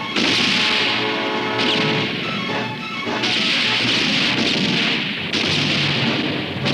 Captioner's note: dramatic music continues; guns roaring